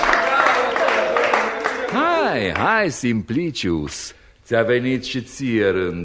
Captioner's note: applause